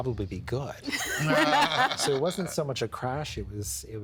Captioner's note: all laughing